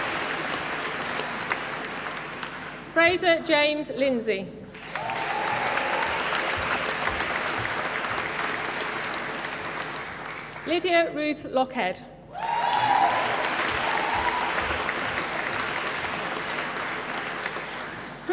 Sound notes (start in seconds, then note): 0.0 applause; 4.7 applause; 12.3 applause